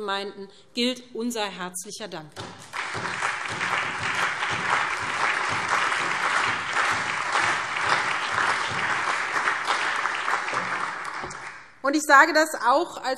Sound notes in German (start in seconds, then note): 2.4 Allgemeiner Beifall